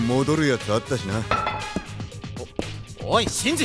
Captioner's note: weapon clanking against the ground